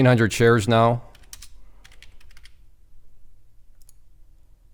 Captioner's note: keyboard clicking